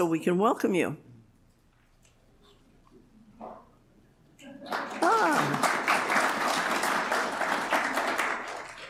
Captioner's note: applause